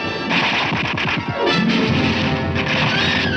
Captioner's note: gunshots